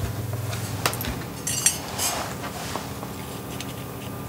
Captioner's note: soft hum in the background